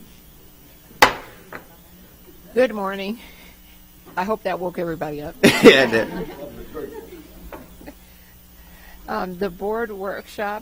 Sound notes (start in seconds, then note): 7.4 sounding gavel